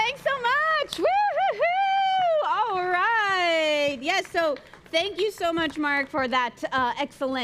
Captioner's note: applause